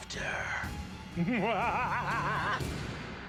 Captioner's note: cackling